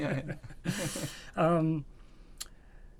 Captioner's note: laughter